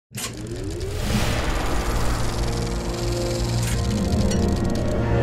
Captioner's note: dramatic instrumental music; reel ticking